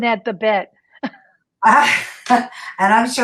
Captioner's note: laughs